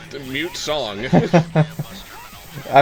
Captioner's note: laughs